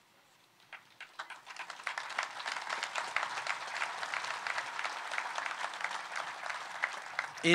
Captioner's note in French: Applaudissements